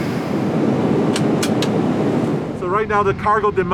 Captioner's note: object clicking